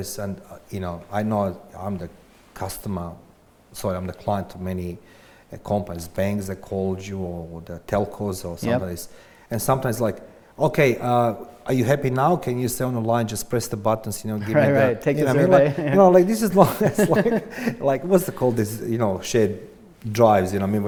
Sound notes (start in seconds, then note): 15.3 both laughs